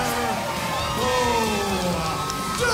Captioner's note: crowd cheering